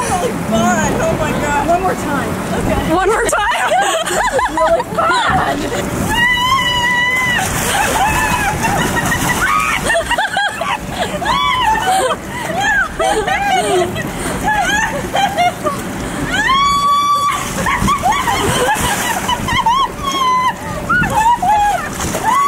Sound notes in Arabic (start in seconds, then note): 4.8 يضحك; 6.9 المرأة تصرخ وتضحك; 18.5 تصرخ المرأة وتضحك